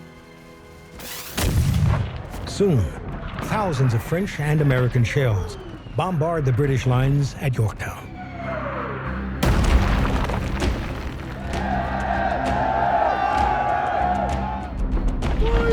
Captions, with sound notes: (cannon fire) Soon, thousands of French and American shells bombard the British lines at Yorktown. (explosions) (cheering)